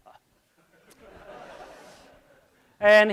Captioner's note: laughing